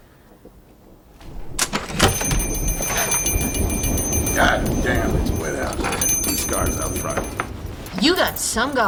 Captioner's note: door opens. Door bell rings